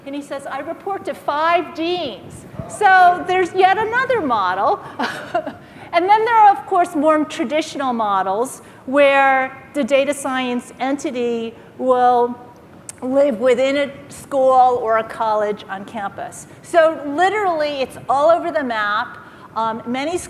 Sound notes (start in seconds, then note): 4.6 laughs